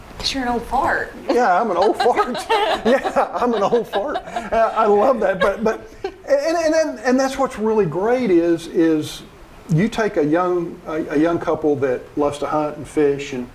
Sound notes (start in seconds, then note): 1.3 laughing